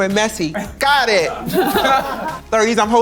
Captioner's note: participants laughing